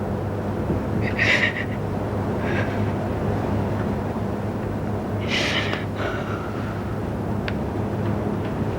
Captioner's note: crying